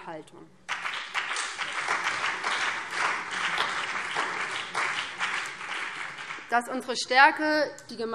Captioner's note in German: Beifall BÜNDNIS 90/DIE GRÜNEN und vereinzelt CDU